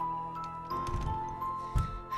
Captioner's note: door rattles